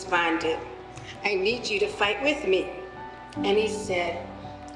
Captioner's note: with much emotion